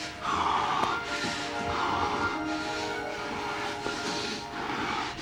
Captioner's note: heavy breathing